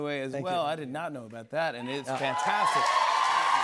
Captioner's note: cheers and applause